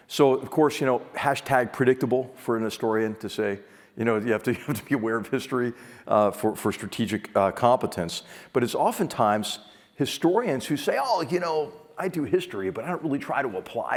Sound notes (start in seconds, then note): 4.5 laugh